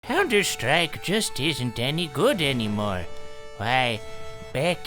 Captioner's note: in old man voice